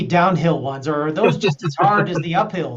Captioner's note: laughs